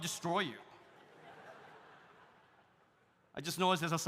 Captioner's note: audience laughs